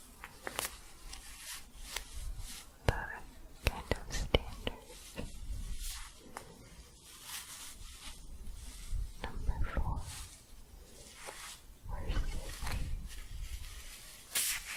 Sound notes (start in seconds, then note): 5.7 staticky shuffling; 14.5 staticky shuffling and crinkling